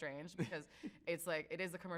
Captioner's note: chuckles